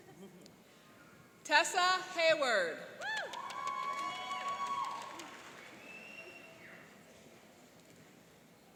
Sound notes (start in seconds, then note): 3.0 cheering and applauding